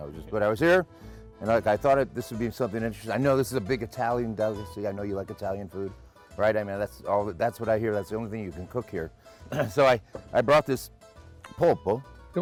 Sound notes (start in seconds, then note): 9.5 clears throat